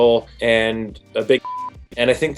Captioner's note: beep